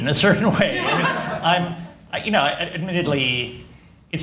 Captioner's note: laughter